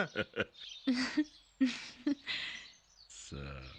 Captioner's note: chuckling